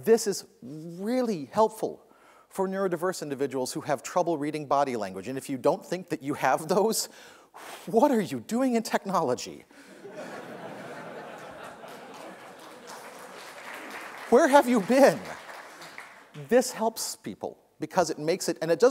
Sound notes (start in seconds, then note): 9.9 laughter; 11.2 applause